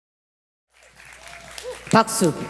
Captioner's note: applause